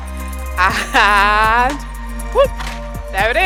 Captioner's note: chuckles